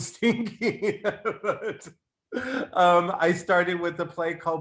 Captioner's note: laughs